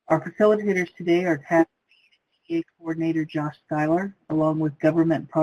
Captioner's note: voice muffled